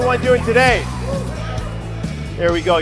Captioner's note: audience whooping